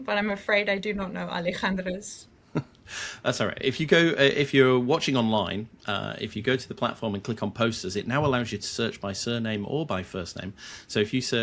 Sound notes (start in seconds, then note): 2.5 chuckles